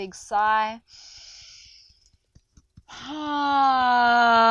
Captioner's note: inhales deeply